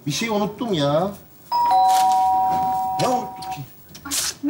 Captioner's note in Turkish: Zil çalar